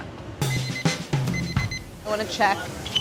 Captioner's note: kitchen timer beeping